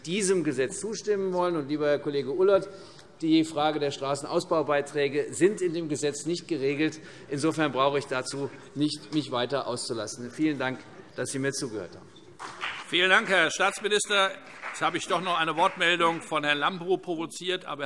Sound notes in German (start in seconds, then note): 12.4 Vereinzelter Beifall CDU und BÜNDNIS 90/DIE GRÜNEN